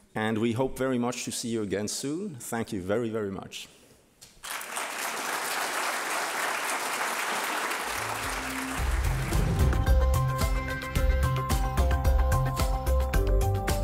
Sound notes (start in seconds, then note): 4.4 audience applauding; 9.8 upbeat techno music